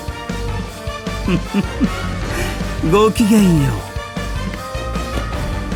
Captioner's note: giggle